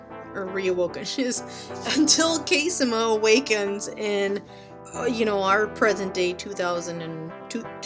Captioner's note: laughs